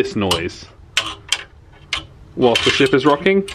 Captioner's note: hangers clattering